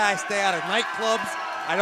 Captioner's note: bell ringing